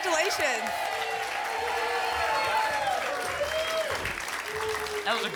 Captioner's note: applause and cheering cont